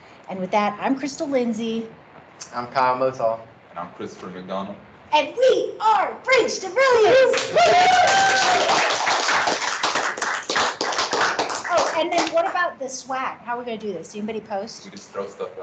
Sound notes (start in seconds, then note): 7.0 clapping and cheering